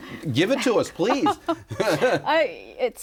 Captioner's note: laughs